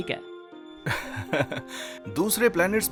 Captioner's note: narrator laughing